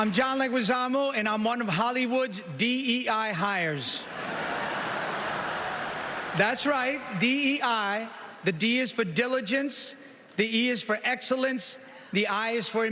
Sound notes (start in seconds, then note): 1.5 applause